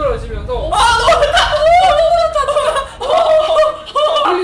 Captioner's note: screaming